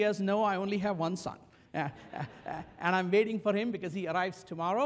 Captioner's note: laugh